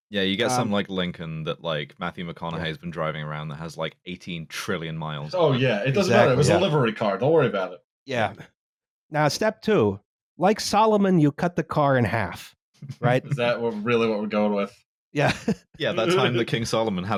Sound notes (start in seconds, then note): 12.9 chuckles; 15.8 laughs